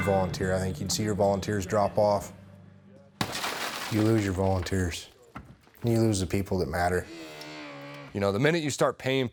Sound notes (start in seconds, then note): 3.2 glass breaking sound